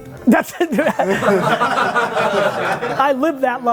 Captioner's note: laughs